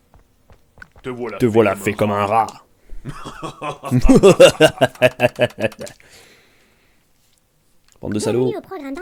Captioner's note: laugh